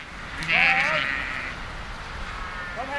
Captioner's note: bleating, calls